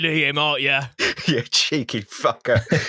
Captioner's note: cockney accent; laughter; cockney accent